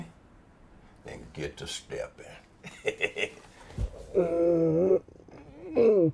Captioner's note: laughs